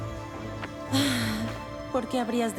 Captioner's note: sigh